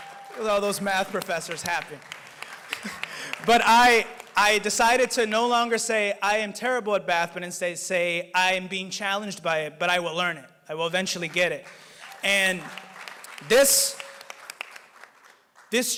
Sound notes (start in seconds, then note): 7.5 applause